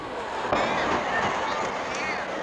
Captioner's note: crowd exclaims; crowd chattering